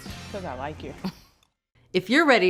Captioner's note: Bridget chuckles